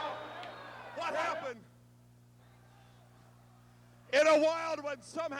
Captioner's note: applause